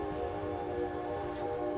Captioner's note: urban noises